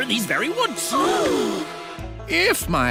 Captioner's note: gasping